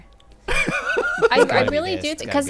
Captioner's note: group laughing